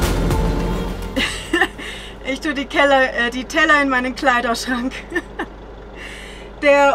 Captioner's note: laughs